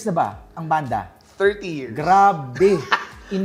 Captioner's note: chuckles